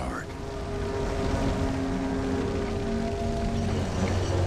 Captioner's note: fire crackling